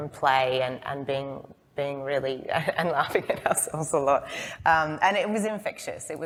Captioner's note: laughs